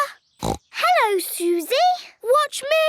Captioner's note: snorts